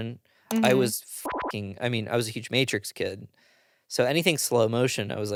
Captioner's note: beep